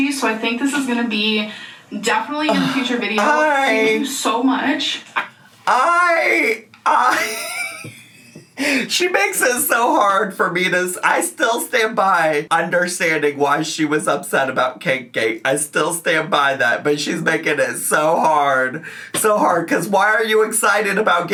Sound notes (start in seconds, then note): 6.8 laughs